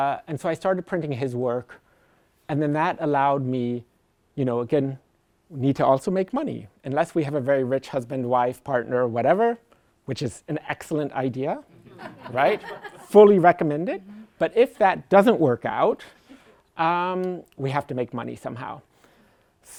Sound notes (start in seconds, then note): 11.8 laughter